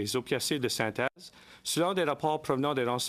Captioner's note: speaking in French